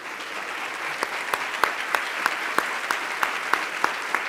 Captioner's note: applause